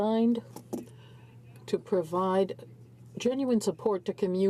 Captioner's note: speaking in french